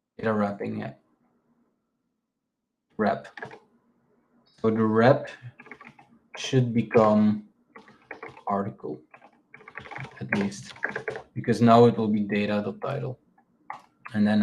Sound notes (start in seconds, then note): 7.7 keyboard clacking